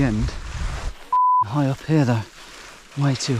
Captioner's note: beep